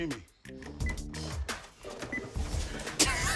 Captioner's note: beeps; laughs